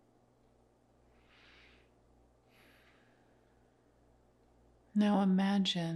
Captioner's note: instructor inhales and exhales